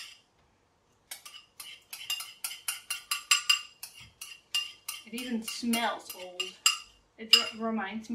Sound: sound of metal spoon scraping in a porcelain bowl

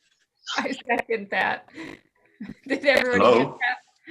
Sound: chuckles

